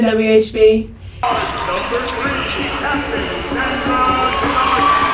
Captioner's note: crowd cheers